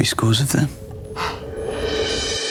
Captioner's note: exhales